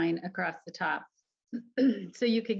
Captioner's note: woman clears throat